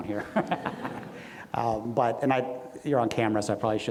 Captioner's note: everyone laughs